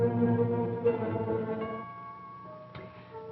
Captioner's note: doorbell